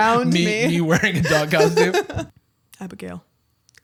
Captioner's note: laughter